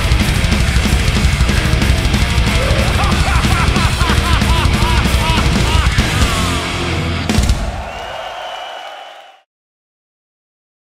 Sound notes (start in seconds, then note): 2.4 vocalist laughing dramatically; 7.1 audience cheering